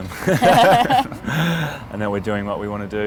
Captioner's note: both laugh